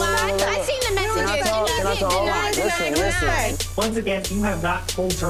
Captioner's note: people yelling at once